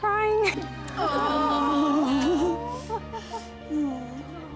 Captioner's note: women going "Aww"